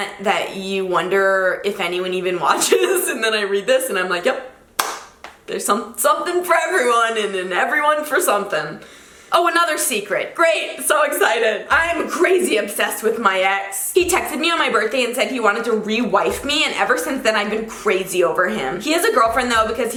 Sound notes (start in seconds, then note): 4.8 claps